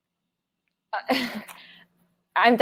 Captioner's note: laughs